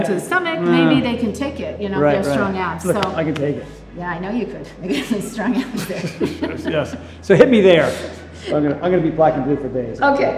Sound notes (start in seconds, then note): 4.8 Cynthia laughs; 4.8 laughs